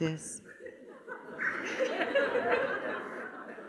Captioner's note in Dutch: gelach